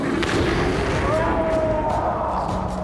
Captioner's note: distant roar, yell